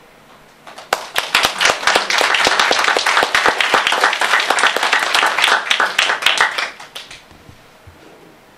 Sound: applause

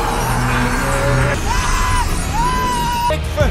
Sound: Kingsley Ben-Adir screaming painfully

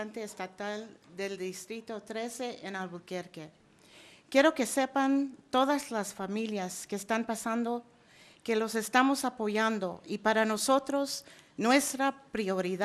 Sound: speaking spanish

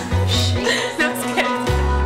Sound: laughs

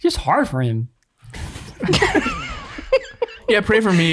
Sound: all laughing

